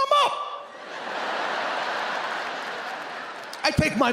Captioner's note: audience laughing